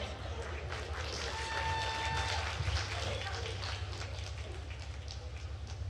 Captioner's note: attendees cheering and applauding